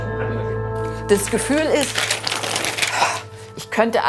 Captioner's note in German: Sphärische Musik; Schnaufen